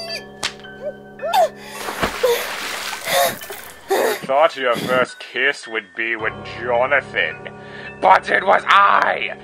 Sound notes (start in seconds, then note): 4.6 breathing heavily